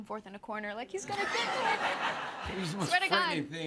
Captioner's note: laughter